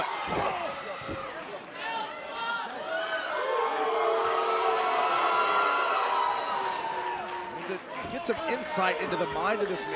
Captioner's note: crowd cheering